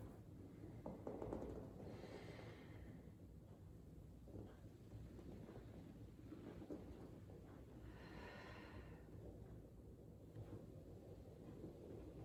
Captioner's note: breathing